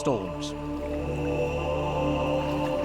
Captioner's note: men chanting